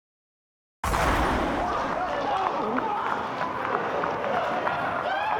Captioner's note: panicked crowd noises